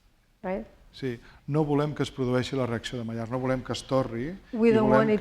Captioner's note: speaking spanish